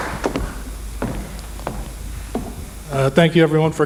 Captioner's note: footsteps Sounds